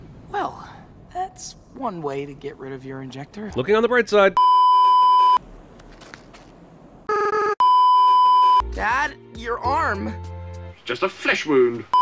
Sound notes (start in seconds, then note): 4.4 beeeeeep; 7.1 beeeeeep